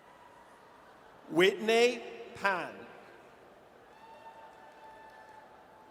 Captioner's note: audience cheers